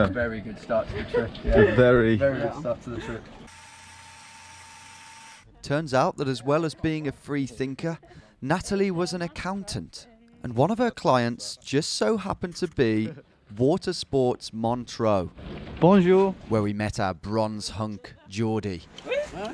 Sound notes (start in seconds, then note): 3.4 whirring